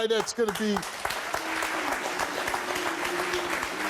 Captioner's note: applause